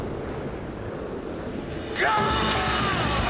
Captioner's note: all yelling